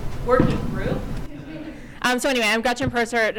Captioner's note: audience chuckling